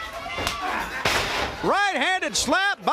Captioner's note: crowd cheering